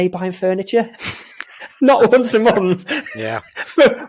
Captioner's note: laughing